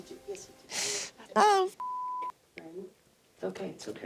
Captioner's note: beep